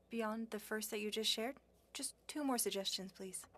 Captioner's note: speaking French